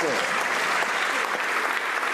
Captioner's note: some Applause